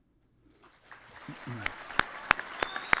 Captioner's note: applause